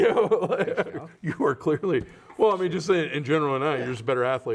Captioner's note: laughing